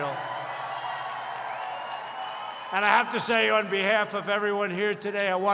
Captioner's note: applause